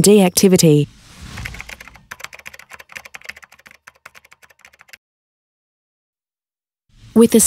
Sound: keyboard tapping

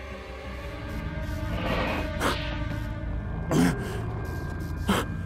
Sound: victim gasping; werewolf softly growling

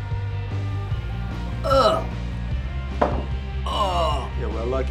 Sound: bar music; gagging

